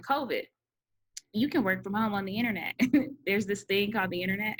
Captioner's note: giggles